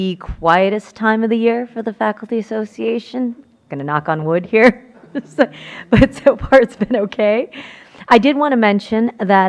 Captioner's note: laughter